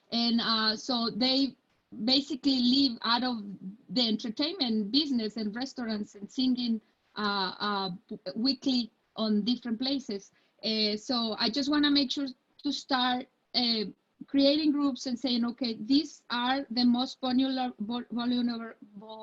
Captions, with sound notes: And so, they basically live out of the entertainment business and restaurants and singing weekly on different places. So I just wanna make sure to start creating groups and sayin, "Okay, these are the most (stuttering)",